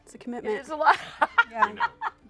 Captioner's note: laughs